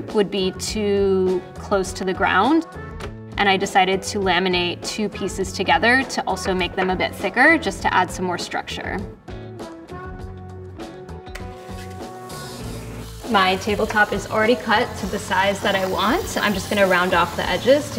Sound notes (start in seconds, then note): 9.2 jaunty music; 11.7 sander whirring